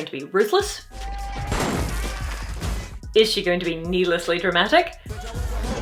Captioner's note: bang!